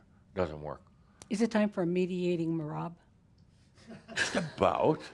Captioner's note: a few chuckles